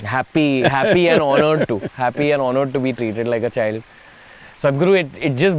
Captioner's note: Sadhguru laughs